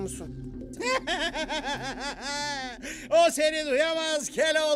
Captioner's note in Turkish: Gülme sesi